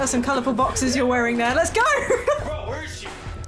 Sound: laughing

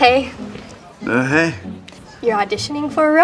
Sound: in sluggish voice

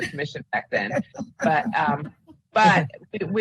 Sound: laughing

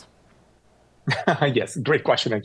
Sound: chuckles

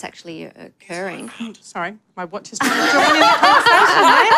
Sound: laughter

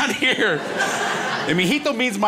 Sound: crowd laughs

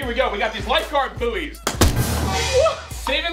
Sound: bang

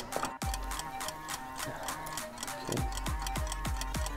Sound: clock ticks

